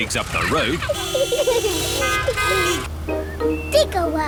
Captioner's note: horns toot